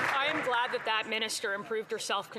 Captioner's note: some Applause